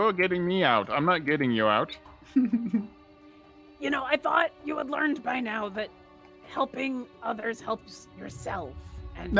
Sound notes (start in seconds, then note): 2.3 laughs